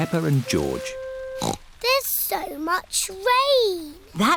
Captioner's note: snorts